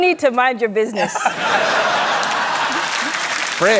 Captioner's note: laughter, applause